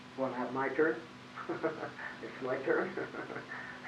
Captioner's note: laughs